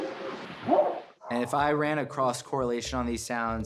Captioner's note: whooping sound